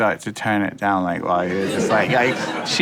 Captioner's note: people laughing